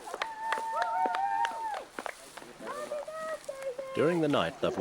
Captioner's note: cheering